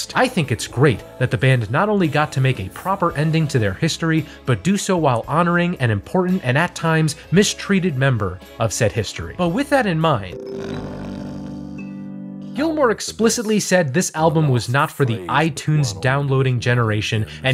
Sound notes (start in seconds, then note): 10.3 snoring